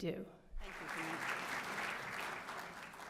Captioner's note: applause